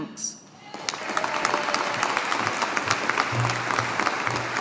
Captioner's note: audience applauding